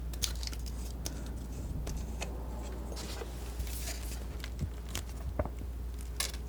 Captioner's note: scratching